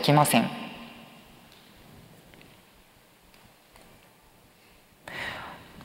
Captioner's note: silence